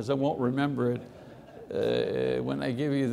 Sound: congregation laughing

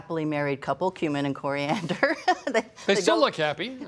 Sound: laughing

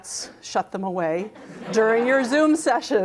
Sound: crowd laughs

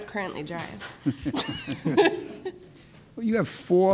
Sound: courtroom laughs

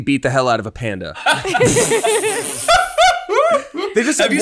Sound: laughs

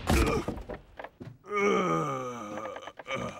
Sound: groans

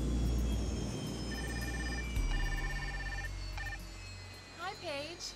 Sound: cellphone ringing

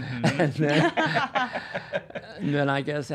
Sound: all laughing

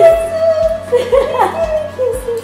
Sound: giggling

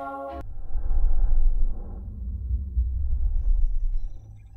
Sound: dramatic sounds

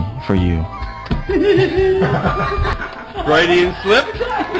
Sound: the staff laughs

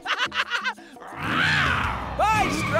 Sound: laughing; roars

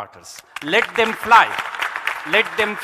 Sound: audience clapping

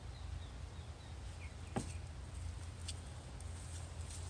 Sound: footsteps

